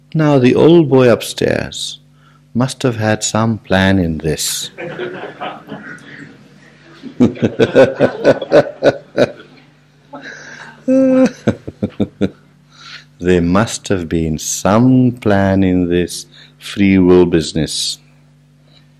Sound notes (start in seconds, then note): 6.4 laughs